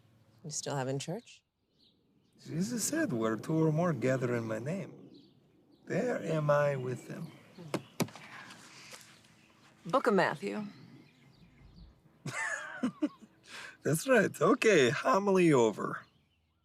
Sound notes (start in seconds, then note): 7.6 Radovan patting; 12.2 Radovan laughing